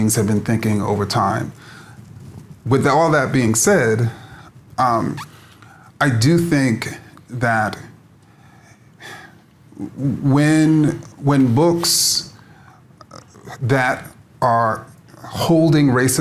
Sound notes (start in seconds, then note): none